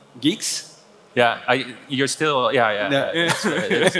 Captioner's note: laughing